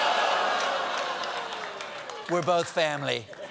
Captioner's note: laughter